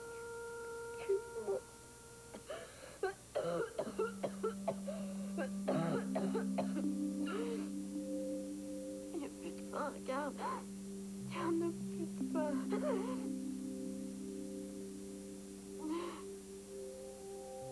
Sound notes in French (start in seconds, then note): 3.0 Toux